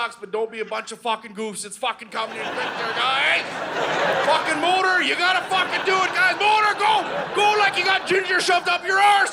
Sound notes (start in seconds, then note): 2.3 audience laughing; 8.7 audience laughing